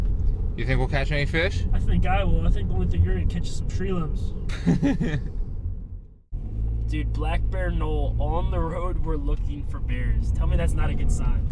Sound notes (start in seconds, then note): 4.5 Thomas laughs